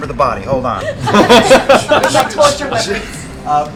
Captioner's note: laughter